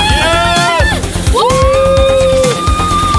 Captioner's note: cheering